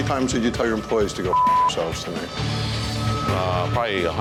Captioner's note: beep